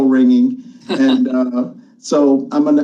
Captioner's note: laughs